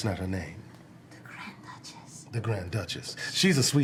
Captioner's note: whispering